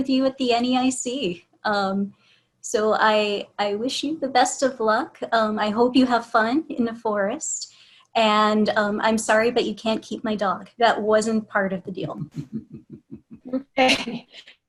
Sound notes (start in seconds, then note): 12.4 laughter